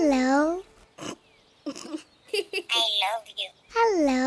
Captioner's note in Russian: Смех Гоши